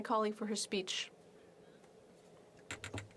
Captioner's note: speaking French